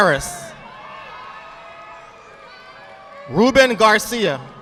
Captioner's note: audience applauding